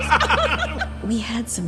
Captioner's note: both laugh